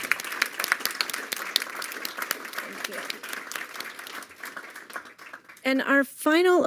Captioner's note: applause